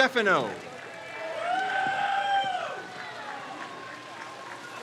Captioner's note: crowd cheers